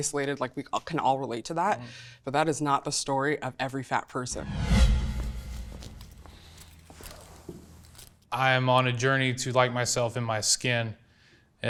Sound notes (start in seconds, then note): 4.4 footsteps